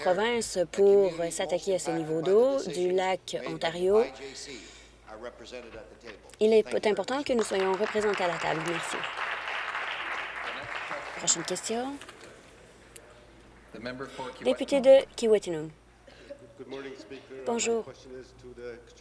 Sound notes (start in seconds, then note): 12.7 applause